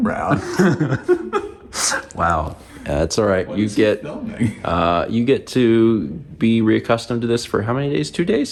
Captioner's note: laughs